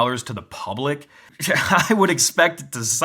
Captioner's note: laughs